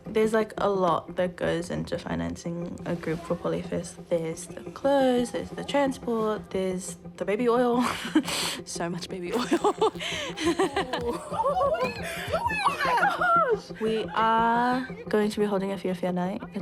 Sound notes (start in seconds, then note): 9.0 chuckles